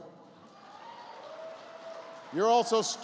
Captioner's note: applause